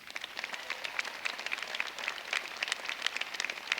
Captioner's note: applause